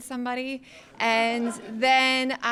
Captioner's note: audience laughing